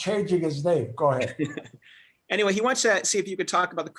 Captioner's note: laughter